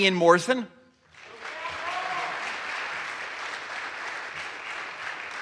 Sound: audience applauds

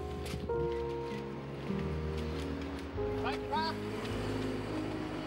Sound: cameras clicking

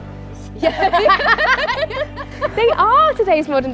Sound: laughing

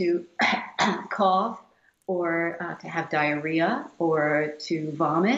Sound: feigns coughing

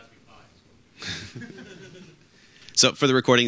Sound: some audience members laughing

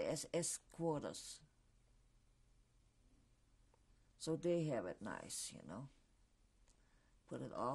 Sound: pauses for 3 seconds

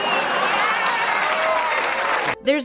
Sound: applause, cheering

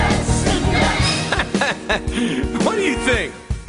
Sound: chuckles

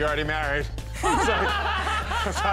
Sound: laughing

